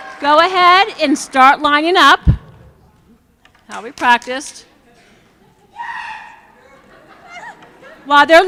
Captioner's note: cheering